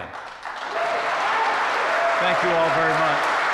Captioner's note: applause